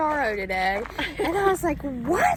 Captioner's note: both laugh